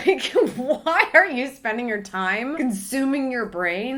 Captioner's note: laughs